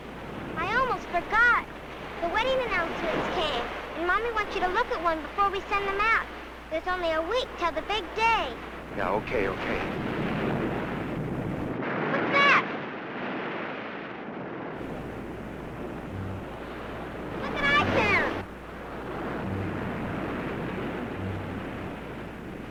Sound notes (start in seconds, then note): 10.0 waves roaring; 15.9 dramatic music